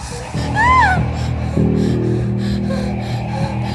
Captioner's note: screaming